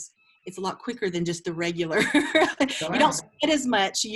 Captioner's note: laughs